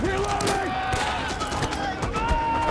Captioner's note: shouting